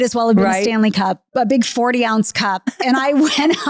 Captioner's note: laughing